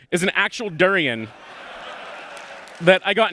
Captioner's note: laughter